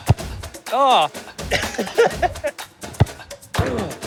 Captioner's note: laughs